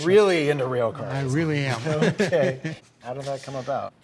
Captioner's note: laughs